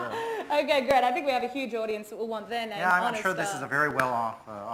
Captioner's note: laughs